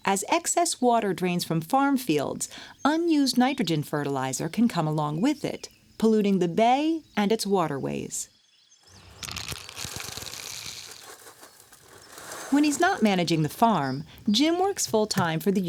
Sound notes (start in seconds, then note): 8.9 sound of seeds coming out of the bag